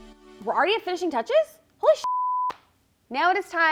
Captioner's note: soft rock music; beep